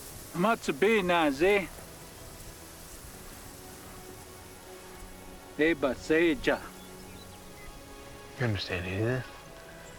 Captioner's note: speaking mohave